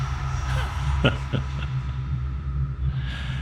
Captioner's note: laughing